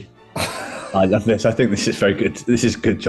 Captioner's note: sniggering